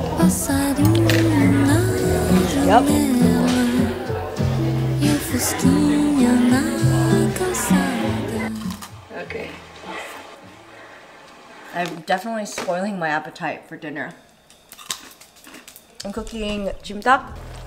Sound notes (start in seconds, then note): 0.2 vocalist singing in Spanish; 8.5 snack crunching